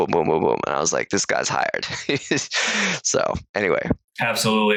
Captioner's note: laughs